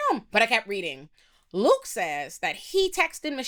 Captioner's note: none